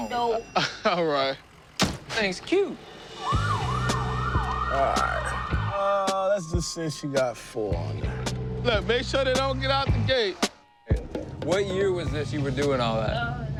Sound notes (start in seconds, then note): 0.3 laughs; 3.1 siren wailing